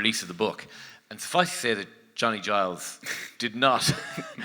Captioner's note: laughs